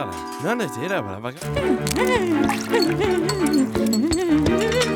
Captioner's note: humming